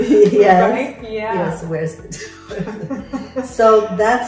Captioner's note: laughs